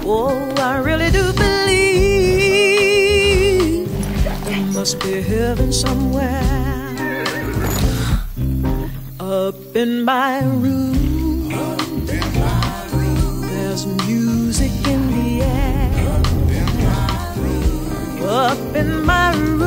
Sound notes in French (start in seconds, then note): 4.7 hennissement